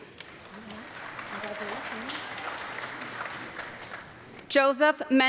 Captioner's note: audience clapping